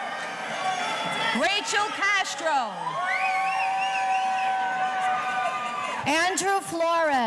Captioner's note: audience cheering